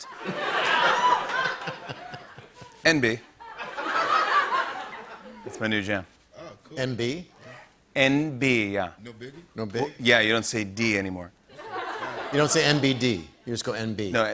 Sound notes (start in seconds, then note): 0.0 laughter